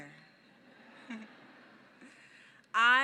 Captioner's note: laughs